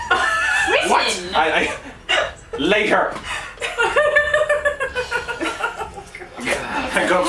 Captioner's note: laughter